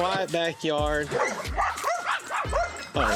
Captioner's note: dogs barking